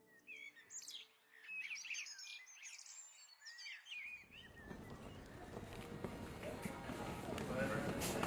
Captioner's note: birds Chirping